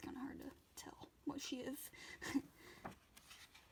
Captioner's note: laughs